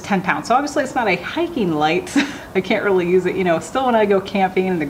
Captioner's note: laughing